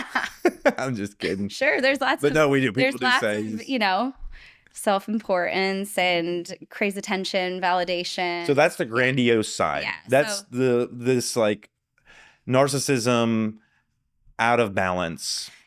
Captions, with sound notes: (laughing) I'm just kidding. Sure, there's lots of, there's lots of, you know, self-importance and crazy tension, validation. So that's the grandiose side. That's this like narcissism out of balance.